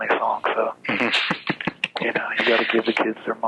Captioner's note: laughs